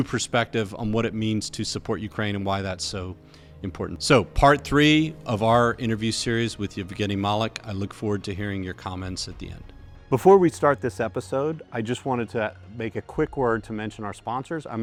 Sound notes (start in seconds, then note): none